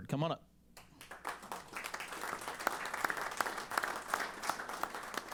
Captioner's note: applause